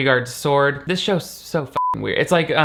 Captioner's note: beep